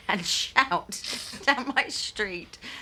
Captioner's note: laughs